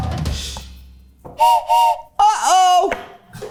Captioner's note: whistle blows; laughs